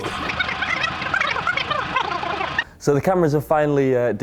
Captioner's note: tape forwarding noise